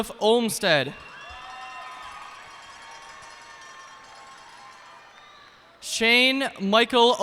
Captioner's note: cheers and applause